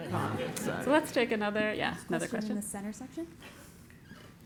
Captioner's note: laugh